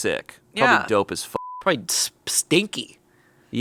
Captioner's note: beep